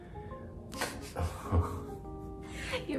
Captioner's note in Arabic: يضحك